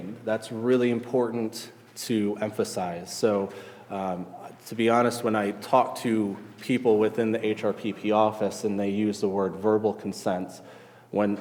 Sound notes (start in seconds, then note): none